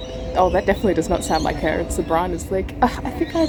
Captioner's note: scoffs